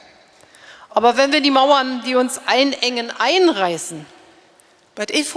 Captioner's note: speaking in German